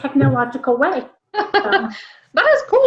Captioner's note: laughs